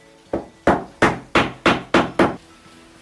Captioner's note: hammering sound